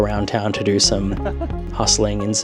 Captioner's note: laughs